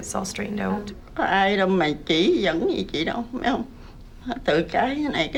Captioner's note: tearfully speaking vietnamese